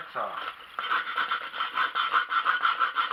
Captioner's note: cutting